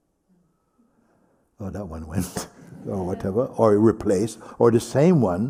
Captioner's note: laughs